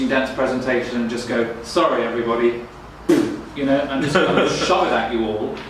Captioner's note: razzing sound